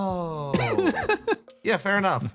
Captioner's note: laughs